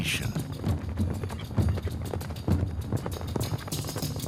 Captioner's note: hooves pounding